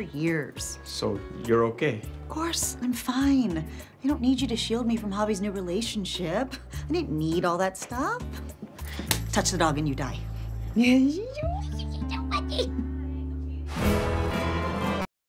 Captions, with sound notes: - So you're okay? - Of course, I'm fine. I don't need you to shield me from Xavi's new relationship. I don't need all that stuff. Touch the dog and you die. [baby talks] [flamenco music]